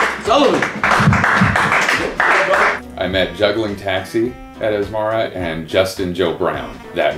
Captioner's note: applause